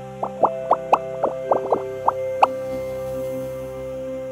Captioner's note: bubbles popping